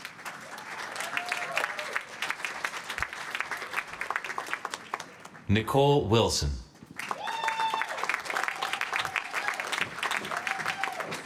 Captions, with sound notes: [APPLAUSE] Nicole Wilson. [APPLAUSE]